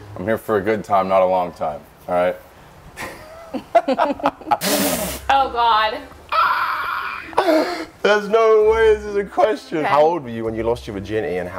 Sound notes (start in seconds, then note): 3.0 laughs